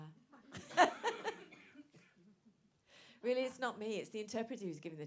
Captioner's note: laughs